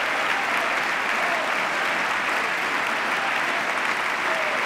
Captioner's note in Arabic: تصفيق